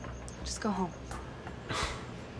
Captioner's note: scoffs